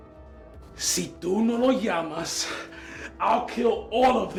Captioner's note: Spanish